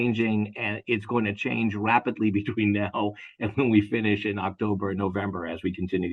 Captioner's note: laugh